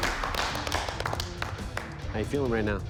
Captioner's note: applause